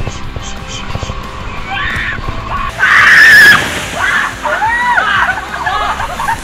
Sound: let out a scream

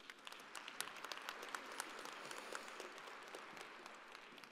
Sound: audience applauding

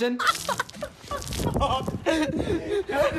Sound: laughing

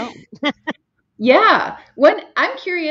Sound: chuckles

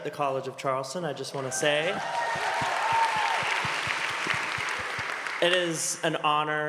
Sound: applause

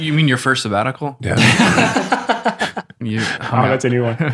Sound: both laugh

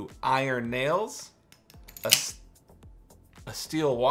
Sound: clanking

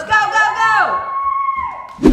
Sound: kids shout

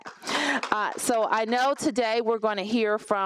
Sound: applause

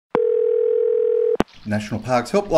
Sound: phone rings

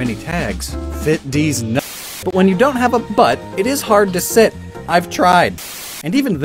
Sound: Static

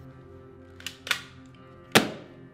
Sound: loads gun; gun slam

